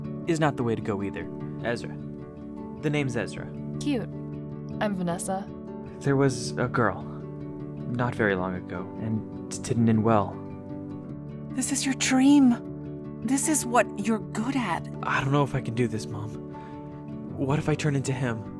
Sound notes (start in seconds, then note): none